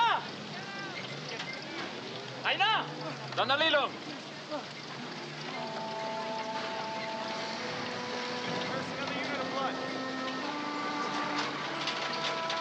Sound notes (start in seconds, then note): 0.3 shouting in Tagalog; 3.7 speaking Tagalog; 5.5 somber music